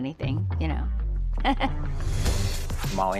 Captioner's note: chuckling